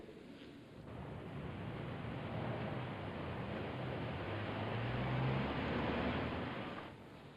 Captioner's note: city street sounds